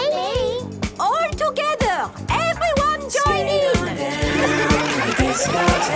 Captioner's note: laughter